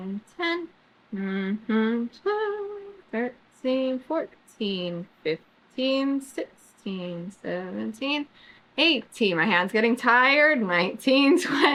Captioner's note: laughs